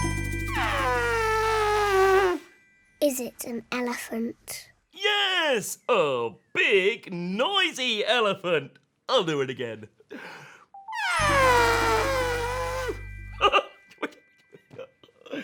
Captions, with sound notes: [elephant noise] is it an elephant yes oh big noisy elephant i'll do it again [elephant noise]